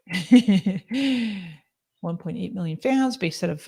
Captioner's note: laughs